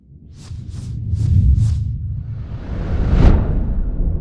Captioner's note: loud whooshing